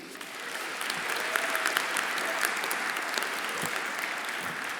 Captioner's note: everyone applauding